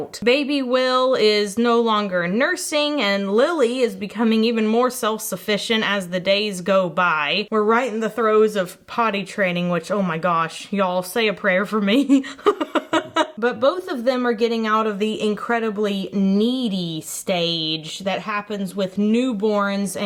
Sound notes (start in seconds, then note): 12.1 chuckles